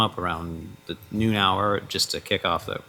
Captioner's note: none